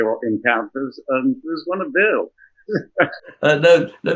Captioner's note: laughs